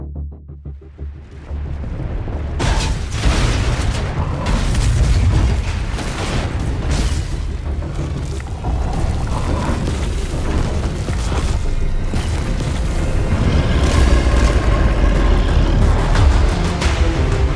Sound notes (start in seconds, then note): 0.0 Música Ominosa; 0.9 Sonidos de Terremoto